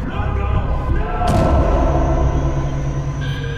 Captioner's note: door slams; scary music